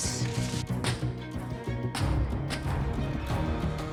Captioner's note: feet thudding